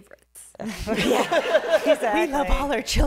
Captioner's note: laughter